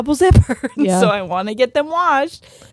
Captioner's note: laughing